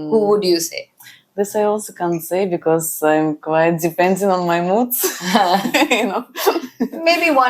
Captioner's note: laughs